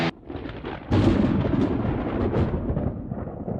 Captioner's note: thunder crashing